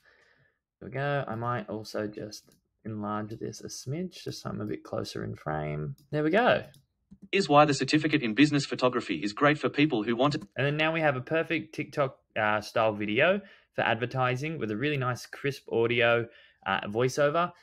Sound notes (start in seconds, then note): 7.3 voiceover